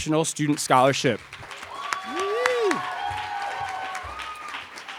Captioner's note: cheering